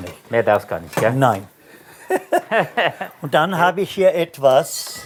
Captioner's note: laughter